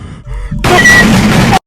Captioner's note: pant; bang bang; bang bang bang; bang bang bang bang; bang